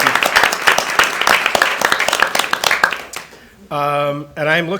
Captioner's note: attendees applaud